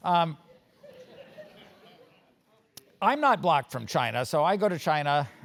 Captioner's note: laugh